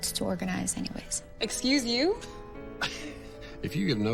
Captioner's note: Archie chuckles